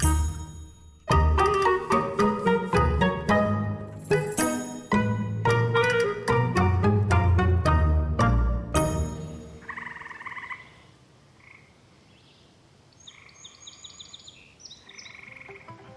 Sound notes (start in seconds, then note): 9.6 trilling and croaking; 13.0 bird singing